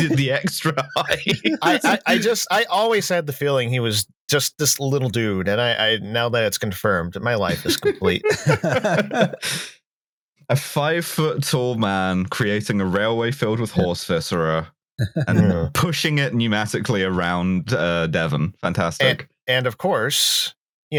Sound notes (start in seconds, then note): 0.0 laughs; 7.4 laughter